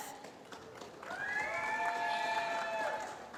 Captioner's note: applause